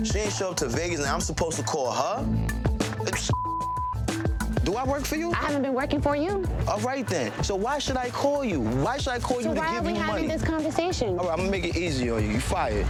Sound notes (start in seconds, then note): 3.3 beeps